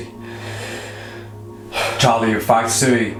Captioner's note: sighing